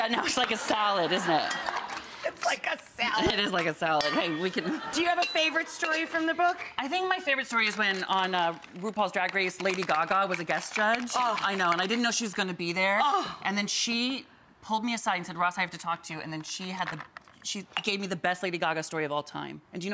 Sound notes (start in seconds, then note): 0.2 audience laughing